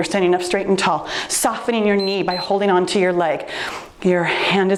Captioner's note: timer beeps